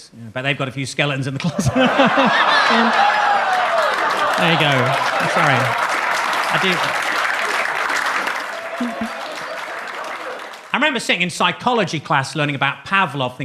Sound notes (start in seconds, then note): 1.9 laughs; 2.2 audience claps; 2.2 audience laughs; 6.3 audience claps